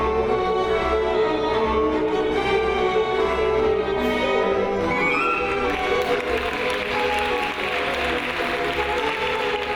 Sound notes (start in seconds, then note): 5.6 audience applauds